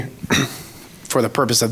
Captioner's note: clears throat